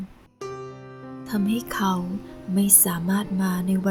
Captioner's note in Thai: none